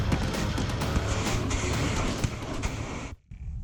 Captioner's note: crashing